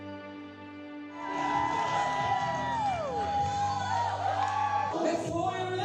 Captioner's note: crowd cheering and applauding